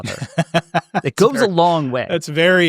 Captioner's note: laughing